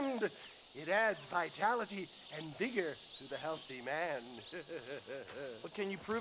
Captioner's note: laughs